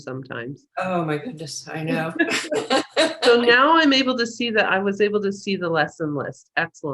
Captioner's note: laughter